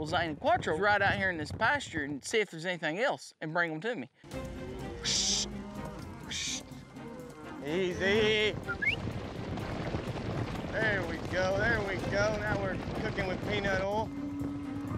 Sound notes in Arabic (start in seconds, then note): 8.5 صافرات، ضربات حوافر; 11.4 ضربات حوافر